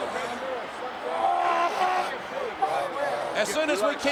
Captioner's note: groans